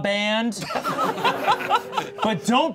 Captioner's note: all laughing